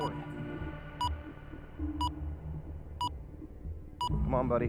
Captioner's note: beeping as seconds count down